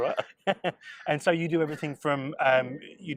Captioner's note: they laugh